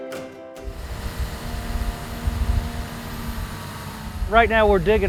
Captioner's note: excavator engine revving